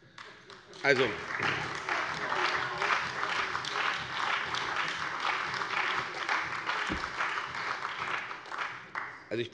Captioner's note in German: Beifall bei der CDU und dem BÜNDNIS 90/DIE GRÜNEN